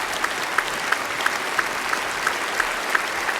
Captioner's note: applause